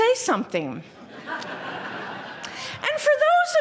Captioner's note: laughter